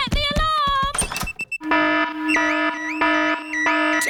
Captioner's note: alarm blaring